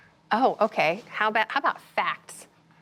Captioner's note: none